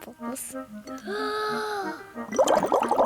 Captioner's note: takes big breath